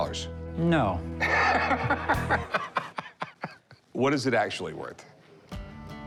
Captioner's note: laughs